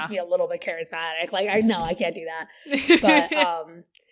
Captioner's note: laughs